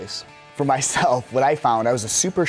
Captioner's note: laughs